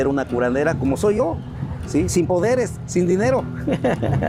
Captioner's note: laughs